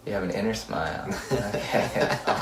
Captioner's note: laughs